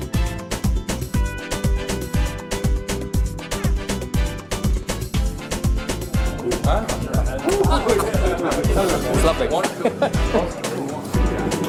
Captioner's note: cough